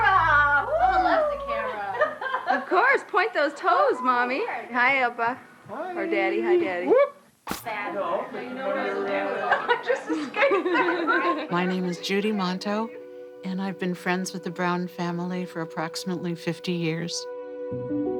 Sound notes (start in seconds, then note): 0.6 laughs; 7.6 lively chatter; 8.9 laughs